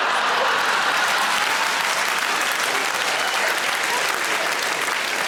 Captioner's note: audience laughing; audience applauds